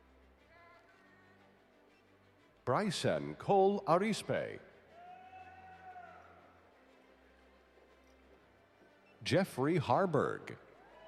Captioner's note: applause